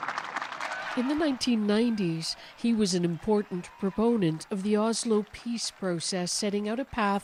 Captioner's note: applause